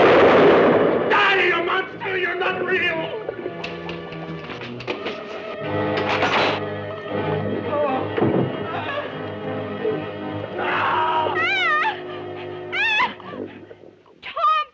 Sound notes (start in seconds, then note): 0.0 gun firing; 10.5 screaming; 11.0 yelling